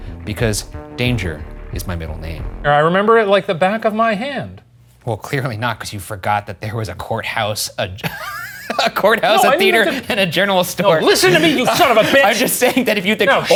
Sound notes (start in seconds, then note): 8.1 laughing